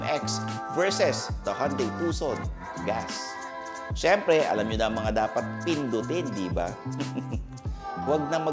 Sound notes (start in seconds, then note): 6.9 chuckles